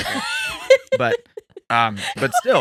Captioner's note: laughing